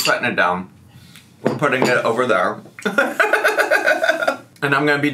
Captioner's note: laughs